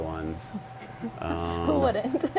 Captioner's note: chuckles